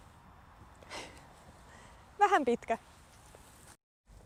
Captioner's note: sigh